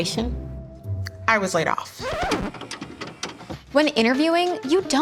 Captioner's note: record scratches